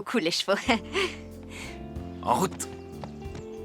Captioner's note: chuckling